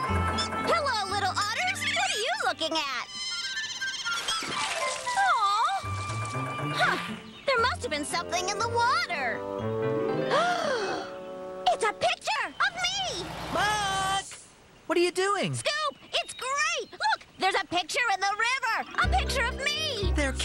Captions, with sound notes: HELLO, LITTLE OTTERS! WHAT ARE YOU LOOKING AT? ( Splash! ) AWWWW! HUH, THERE MUST'VE BEEN SOMETHING IN THE WATER. ( Gasp! ) IT'S A PICTURE...OF ME! MUCK! WHAT ARE YOU DOING? SCOOP! IT'S GREAT! LOOK! THERE'S A PICTURE IN THE RIVER! A PICTURE OF ME!!